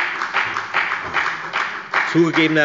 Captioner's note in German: Beifall bei der FDP